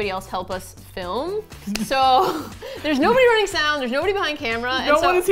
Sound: laughs

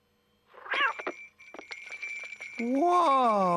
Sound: bell jingles

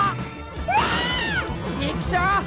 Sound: scream

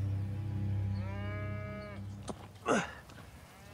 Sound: cattle bleating; Thomas grunting

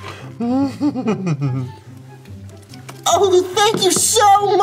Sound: chuckles

